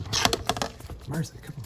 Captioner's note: tape ripping